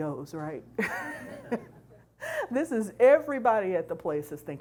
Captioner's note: chuckles